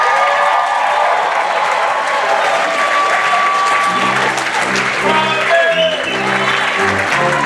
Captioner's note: cheering